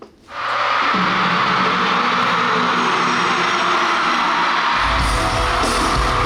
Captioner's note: the show starts with ever louder screams